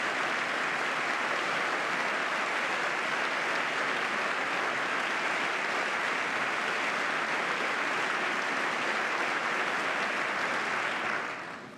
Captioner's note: applause